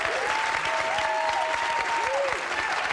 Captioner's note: audience cheering; audience clapping and cheering